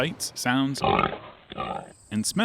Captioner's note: pig oinks